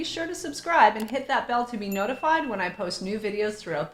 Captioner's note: bell pinging